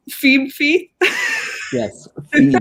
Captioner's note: laughing